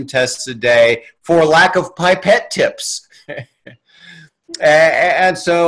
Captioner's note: chuckles